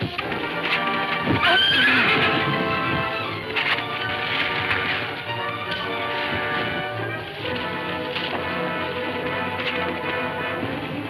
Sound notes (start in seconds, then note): 1.0 dramatic music playing; 3.0 horse neighing